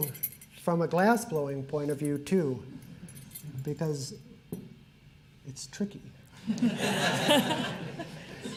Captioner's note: laughter